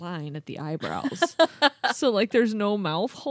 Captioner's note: laughing